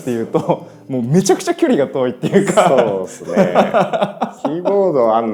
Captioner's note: laughs